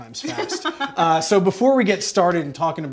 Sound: laughs

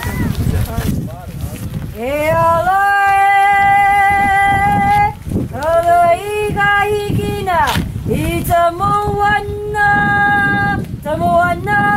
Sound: chanting

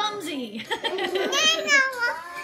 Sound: laughing

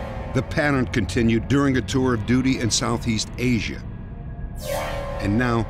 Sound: none

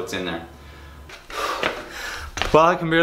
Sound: breathing heavily

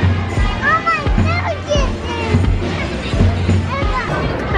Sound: yelling

